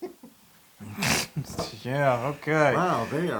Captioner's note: laugh